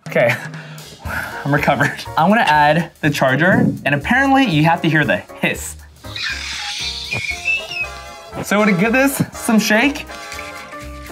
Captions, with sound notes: Okay. (sighing) I'm recovered. I wanna add the charger and apparently, you have the hear the hiss. (machine hissing) So I'm gonna give this some shake.